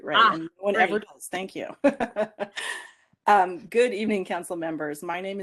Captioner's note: laughter